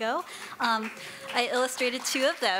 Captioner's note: applauding and cheering